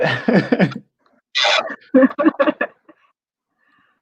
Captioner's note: laughs